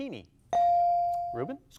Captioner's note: bell dings